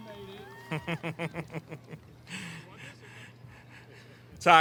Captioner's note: giggles